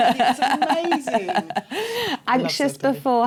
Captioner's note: laughter